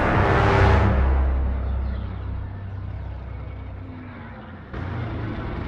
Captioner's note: distant ships flying